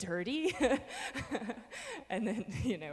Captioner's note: laughing